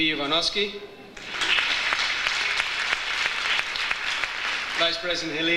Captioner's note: audience applauds